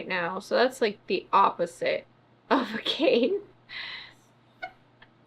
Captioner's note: laughs